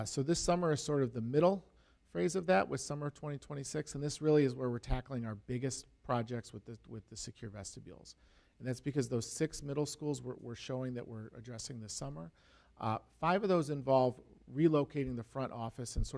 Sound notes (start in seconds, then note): none